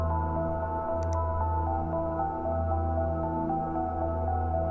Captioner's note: mouse clicks